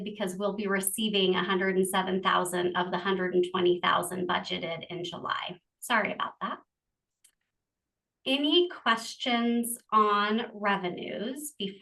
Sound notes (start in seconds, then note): none